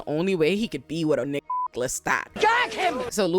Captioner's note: beep